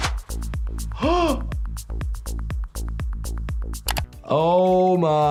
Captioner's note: gasps